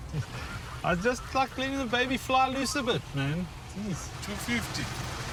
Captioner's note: laughing